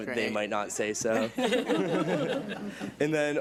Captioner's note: and board members laugh